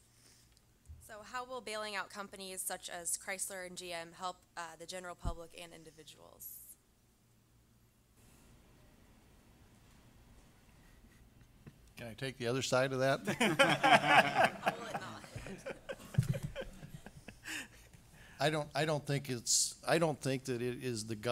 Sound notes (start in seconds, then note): 10.0 audience laughter